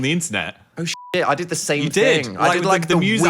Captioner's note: beep